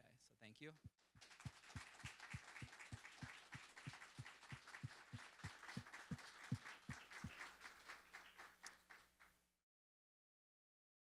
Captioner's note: applause